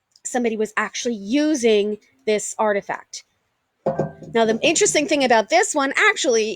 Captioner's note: rock settling